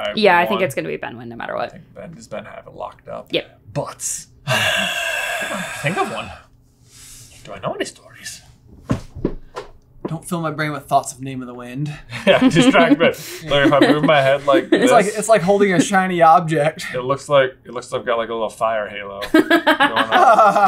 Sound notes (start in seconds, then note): 4.4 siiiiiiiiiiiiiiiiiiiiigh; 19.2 laughter